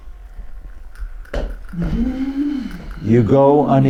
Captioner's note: groans